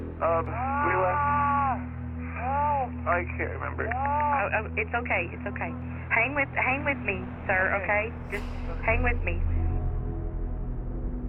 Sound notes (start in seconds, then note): 0.4 on phone; 1.5 distant yelling; 4.4 on phone